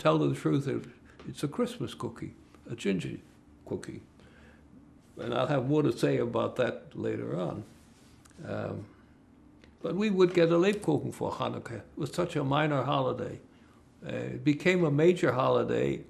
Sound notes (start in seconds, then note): 11.4 german